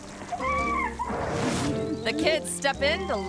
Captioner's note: woman screaming